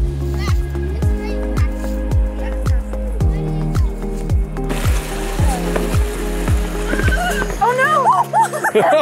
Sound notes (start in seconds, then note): 4.6 water running; 6.9 screams; 8.7 laugh